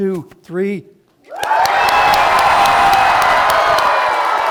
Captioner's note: cheering